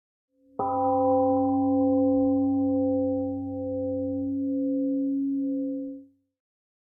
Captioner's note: temple gong rings and fades